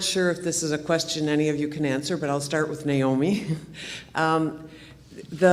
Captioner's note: laughs